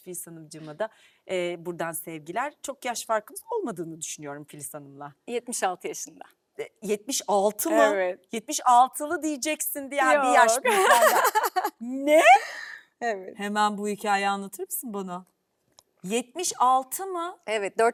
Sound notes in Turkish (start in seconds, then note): 10.6 kahkaha